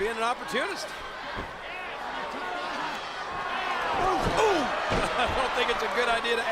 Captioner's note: laugh